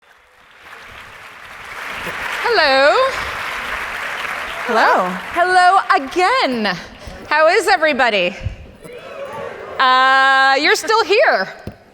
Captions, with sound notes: (audience applauds) - Hello. (audience applauds) - Hello. - Hello, again. How is everybody? (audience responds positively) You're still here.